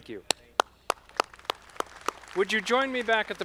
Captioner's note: audience clapping